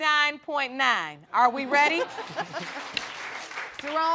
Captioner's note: audience applauding